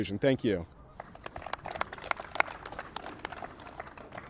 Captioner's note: applause